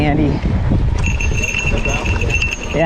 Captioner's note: bell jingling